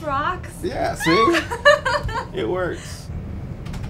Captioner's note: laugh